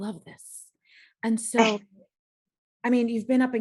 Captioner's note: laughs